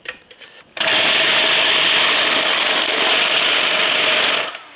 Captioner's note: food processor whirring